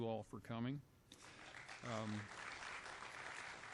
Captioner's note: applause